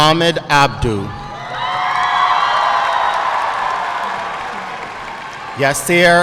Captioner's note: audience cheering and applauding